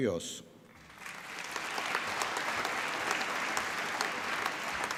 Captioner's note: applause